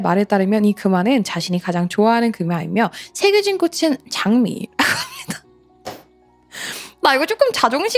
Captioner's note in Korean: 웃음